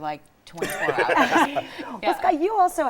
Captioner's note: laughing